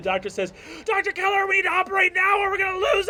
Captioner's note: shouting